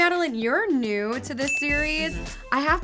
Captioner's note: ringing sound